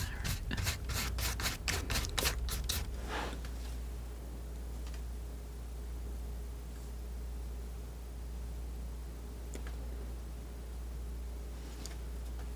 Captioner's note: sniffing